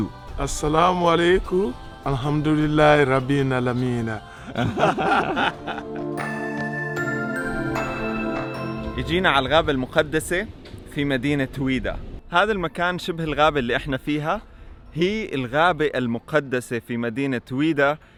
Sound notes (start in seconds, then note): 4.4 warm laughter